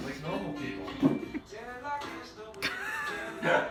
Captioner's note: laughing